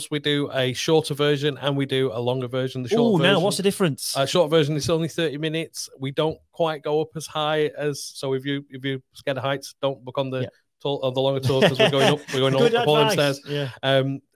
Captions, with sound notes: We do a shorter version and we do a longer version of the shorter version. - Ooh, now, what's the difference? - Shorter version, that's only 30 minutes. We don't quite go up as high as... If you're scared of heights, don't book on the longer tours as we're going up (laughing) We're going up all the stairs. - Good advice.